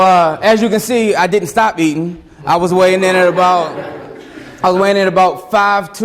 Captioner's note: students laugh